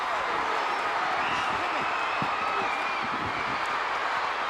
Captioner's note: audience cheering